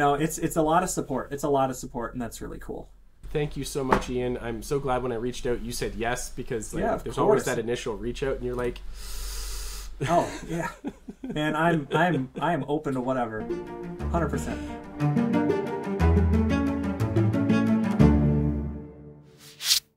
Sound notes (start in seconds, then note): 8.9 inhales